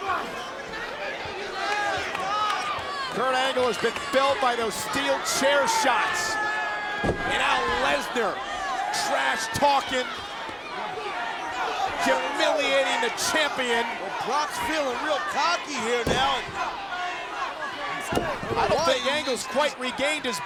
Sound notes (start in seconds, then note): 2.3 audience cheering